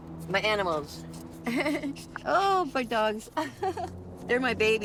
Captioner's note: laughing